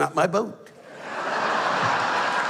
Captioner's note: laughter